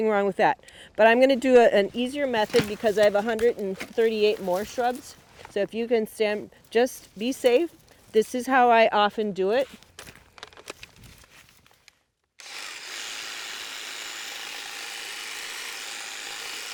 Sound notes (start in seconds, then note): 12.4 tool whirring